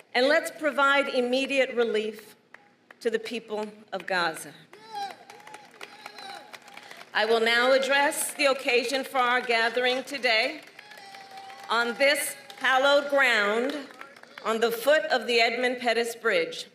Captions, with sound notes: And let's provide immediate relief to the people of Gaza. (Applause.) I will now address the occasion for our gathering today on this hallowed ground on the foot of the Edmund Pettus Bridge,